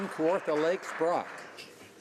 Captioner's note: some Applause